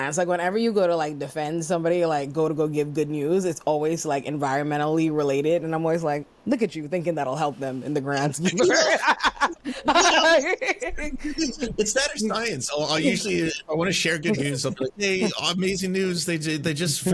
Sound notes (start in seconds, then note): 8.4 laughing